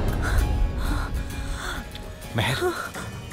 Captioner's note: Moaning